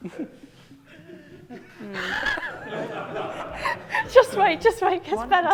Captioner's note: laughter